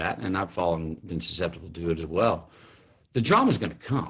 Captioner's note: none